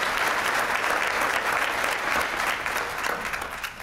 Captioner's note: applause